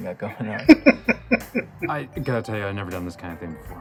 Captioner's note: chuckling